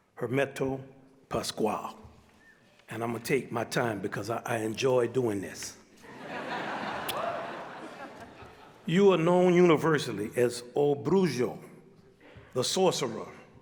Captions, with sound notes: Hermeto Pascoal, and I'm gonna take my time because I enjoy doing this. (audience laughs) (audience member cheers) You are known universally as o Bruxo, The Sorcerer.